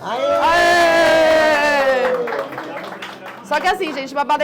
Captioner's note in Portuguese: aplausos